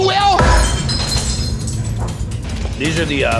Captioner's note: glass shatters